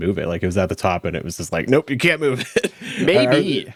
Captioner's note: laughs